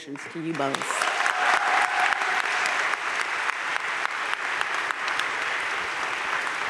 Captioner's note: audience cheering and applauding